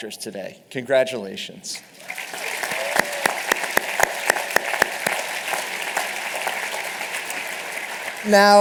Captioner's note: applause